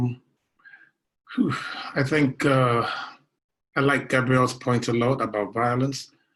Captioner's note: sighs